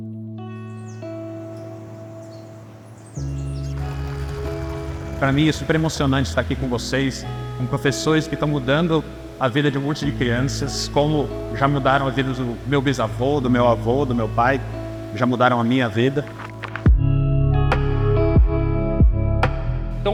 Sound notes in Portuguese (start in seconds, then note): 0.0 trilha sonora nostálgica; 1.3 sons de pássaros; 1.3 trilha sonora nostálgica; 2.7 motor de barco; 16.5 trilha sonora nostálgica